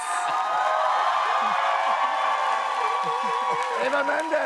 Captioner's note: cheers and applause